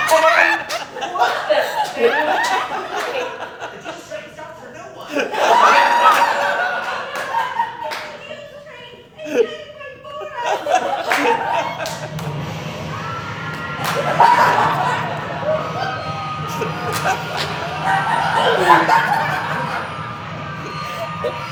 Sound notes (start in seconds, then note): 5.6 laughter; 12.1 car crash sounds; 14.0 audience laughing; 15.8 train crash sounds continue